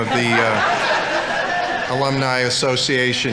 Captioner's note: audience laughing